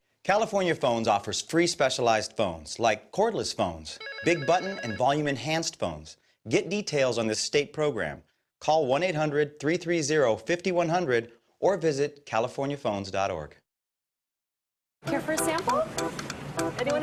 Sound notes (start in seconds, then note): 4.0 phone ringing